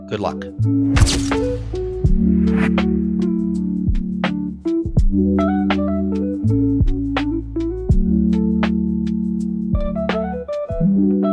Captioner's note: camera shutter clicks